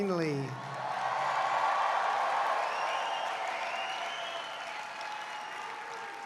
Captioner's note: applause